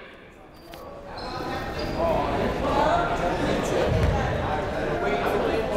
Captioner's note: people talking in the crowd